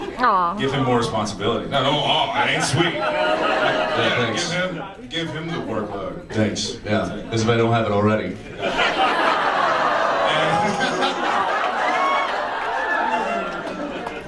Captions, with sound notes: Aww. Give him more responsibility. No, don’t aww, it ain’t sweet. Yeah, thanks. Give him... Give him the workload. Thanks, yeah, as if I don’t have it already. [audience laughs] Oooooh! [laughs] [audience laughs]